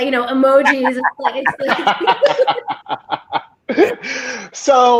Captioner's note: all laughing